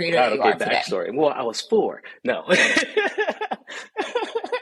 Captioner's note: laughs